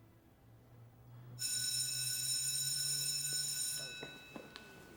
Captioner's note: bell rings